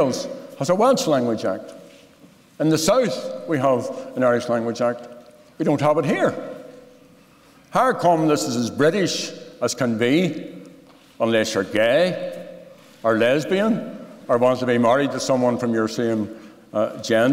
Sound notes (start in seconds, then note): none